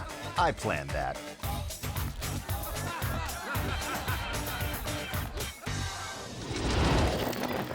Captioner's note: lively music; people laughing; air whoosh